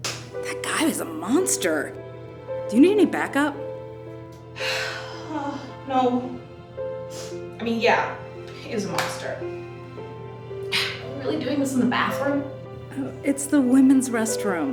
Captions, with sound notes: That guy is a monster. Do you need any backup? [Sighs] No. I mean, yeah. He is a monster. Really doing this in the bathroom? It's the women's restroom.